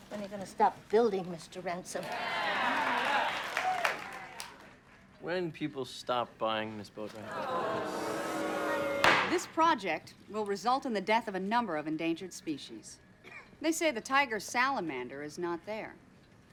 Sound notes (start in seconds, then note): 1.9 crowd cheering; 7.2 crowd booing; 7.4 gavel banging